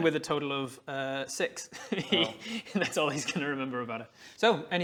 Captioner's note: heehee